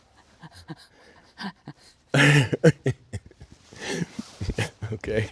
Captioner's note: both laughing